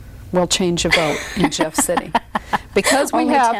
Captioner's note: laughs